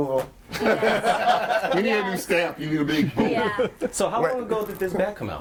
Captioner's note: all laughing